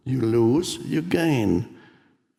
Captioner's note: none